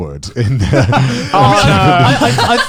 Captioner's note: laughs